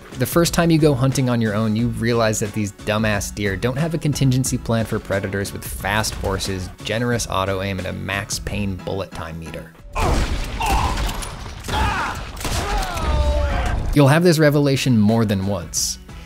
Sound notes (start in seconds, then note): 9.9 Max Payne mobster grunts